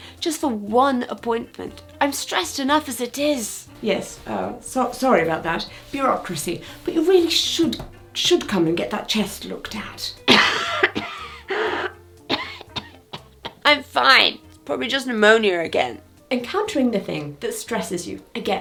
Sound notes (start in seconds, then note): 10.2 patient coughing harshly